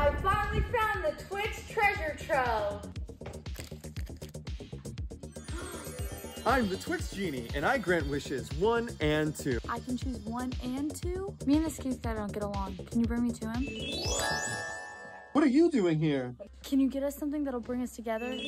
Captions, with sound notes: I finally found the Twix treasure trove. [gasps] I'm the Twix genie and I grant wishes one and two. I can choose one and two. Me and this Keith guy don't get along. Can you bring me to him? What are you doing here? Can you get us something that'll bring us together?